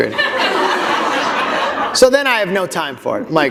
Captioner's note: laughter